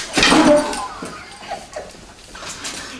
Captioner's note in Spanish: risas